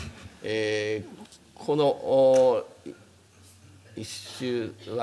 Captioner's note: speaking japanese